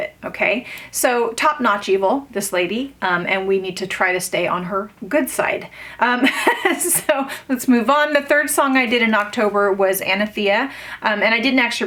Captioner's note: laughs